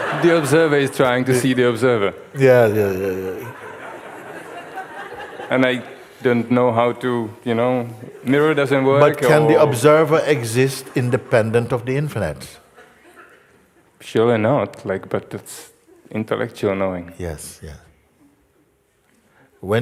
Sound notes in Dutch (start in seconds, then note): 3.2 gelach